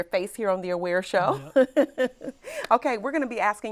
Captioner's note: laughs